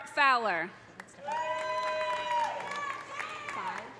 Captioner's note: audience applauding; audience cheering